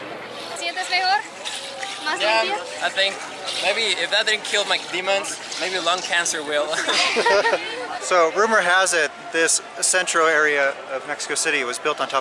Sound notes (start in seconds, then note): 6.7 laughter